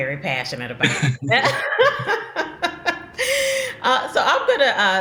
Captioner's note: both laughing